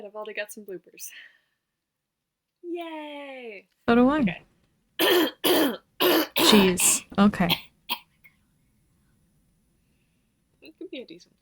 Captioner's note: aggressive throat clearing